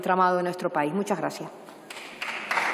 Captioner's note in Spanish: Aplausos